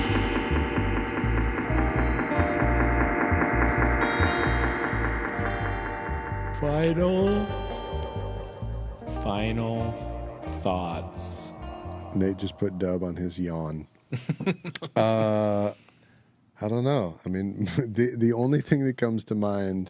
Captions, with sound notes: (drumming) Final. Final thoughts. Nate just put Dub on his yawn. (laughing) I don't know. I mean, the only thing that comes to mind